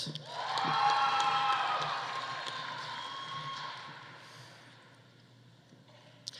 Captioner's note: audience cheering; audience applauding